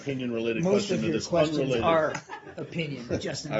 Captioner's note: laughter